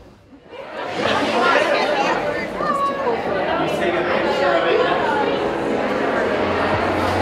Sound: chatter

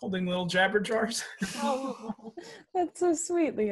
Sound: everyone’s fond laughter

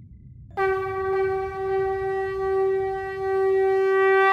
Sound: conch shell blowing

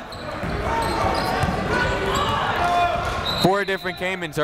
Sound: chatter

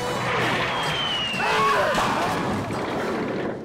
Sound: screaming

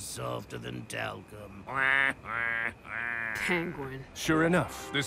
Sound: laughs

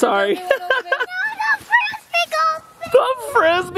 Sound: laughing

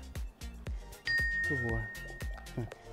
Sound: bell dings

